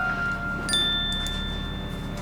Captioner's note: phone chimes